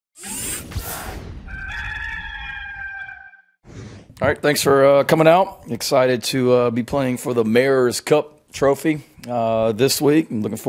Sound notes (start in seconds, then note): 1.4 rooster noise